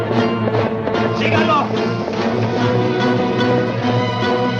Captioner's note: officer yells in Spanish